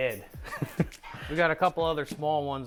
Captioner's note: laughing